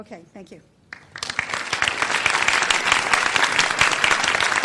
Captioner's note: audience applause